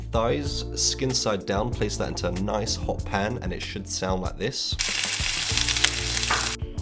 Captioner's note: sizzling